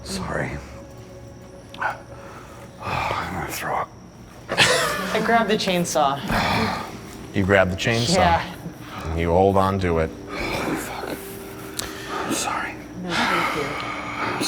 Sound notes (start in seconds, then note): 1.7 breathing heavily